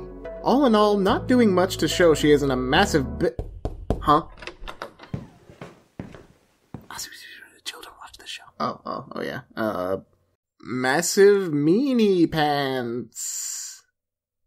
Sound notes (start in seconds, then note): 3.3 knocking on door; 4.1 door opens; 4.9 footsteps approaching